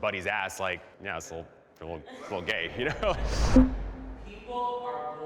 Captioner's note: participants laugh